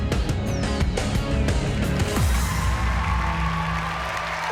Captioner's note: applause and cheering